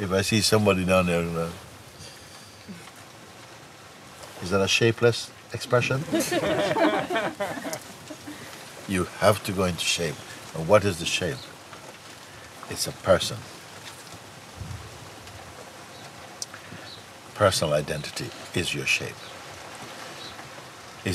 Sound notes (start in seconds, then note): 5.8 laughter